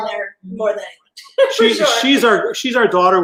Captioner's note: laughs